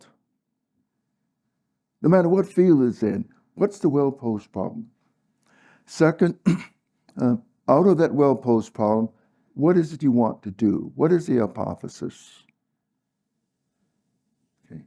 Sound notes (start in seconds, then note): 6.4 cough